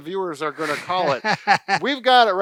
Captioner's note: laughing